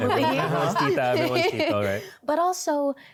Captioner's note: laughter